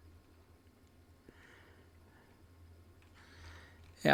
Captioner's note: silence